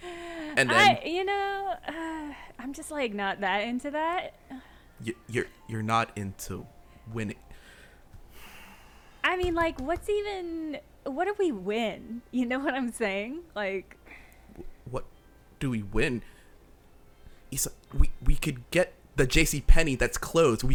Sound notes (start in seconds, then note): 0.3 laughing; 8.2 sighing